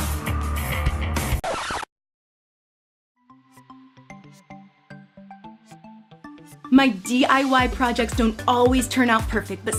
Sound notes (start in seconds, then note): 1.3 record scratching; 3.2 upbeat electronic music